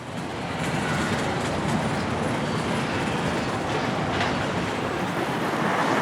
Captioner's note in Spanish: Sonido ambiente urbano